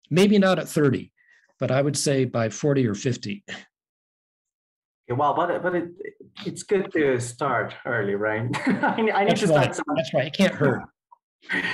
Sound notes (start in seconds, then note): 8.5 laughing